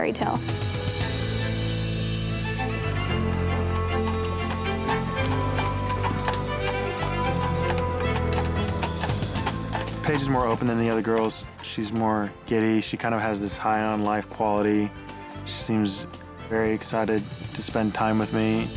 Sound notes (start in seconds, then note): 0.2 energetic string music; 5.2 hooves clopping